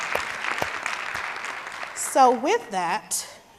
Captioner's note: applause